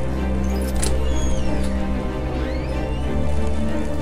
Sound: door opens automatically

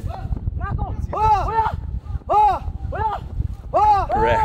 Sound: men shouting

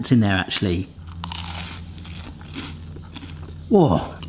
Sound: toast crunching

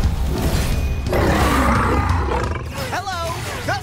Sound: roars

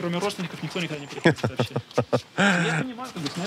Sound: laughs

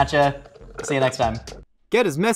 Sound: slurping

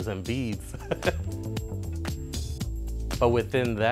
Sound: laughs

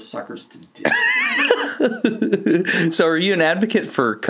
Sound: laughs

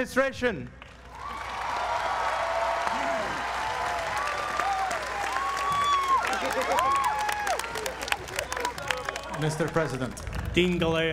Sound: applause

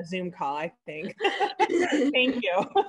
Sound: both laughing

